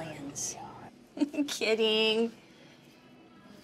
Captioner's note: giggles